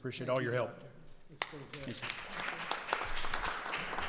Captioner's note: applause